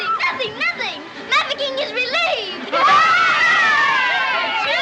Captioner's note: cheering